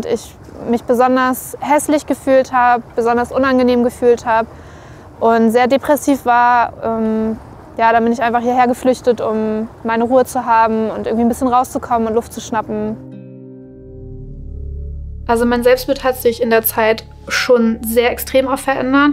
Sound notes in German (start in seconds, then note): 13.0 Dröhnen